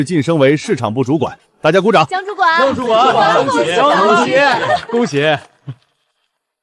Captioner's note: applause